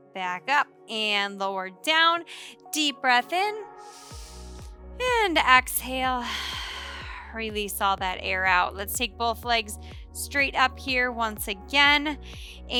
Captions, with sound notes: Back up and lower down. Deep breath in. (inhales deeply) And exhale. (exhales heavily) Release all that air out. Let's take both legs straight up here once again.